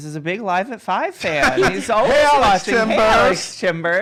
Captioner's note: laughs